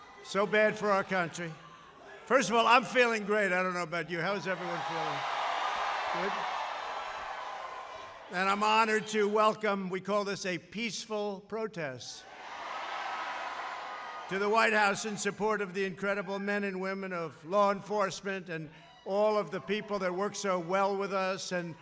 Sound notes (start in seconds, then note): 7.1 applause